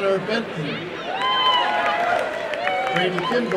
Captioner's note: applause and cheering